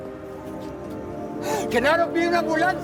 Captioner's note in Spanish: Sollozos